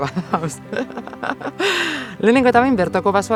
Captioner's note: laughs